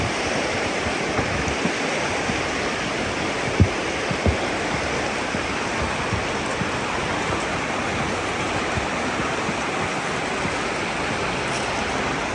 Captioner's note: water rushing